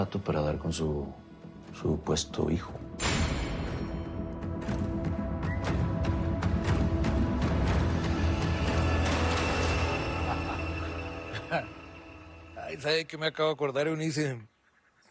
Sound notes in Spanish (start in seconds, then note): 10.1 Risas